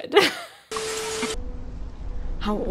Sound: static crackling

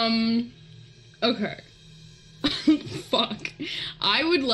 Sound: laughs

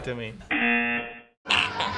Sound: buzzer; brief, rapid farts

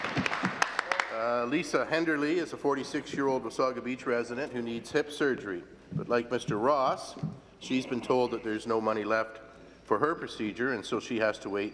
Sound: applause

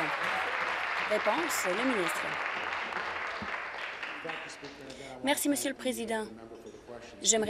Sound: applause

